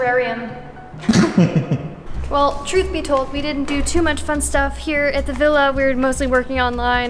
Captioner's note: laughs